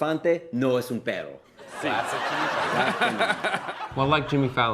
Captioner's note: laughter